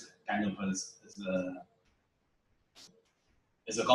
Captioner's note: pause